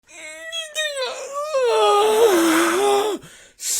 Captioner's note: groans